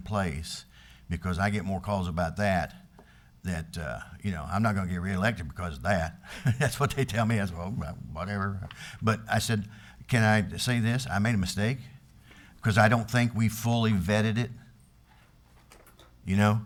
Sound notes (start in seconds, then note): 6.2 laughs